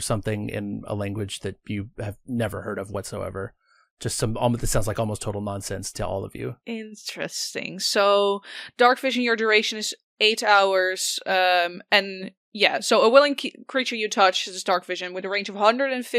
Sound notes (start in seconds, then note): none